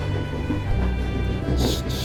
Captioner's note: crying noises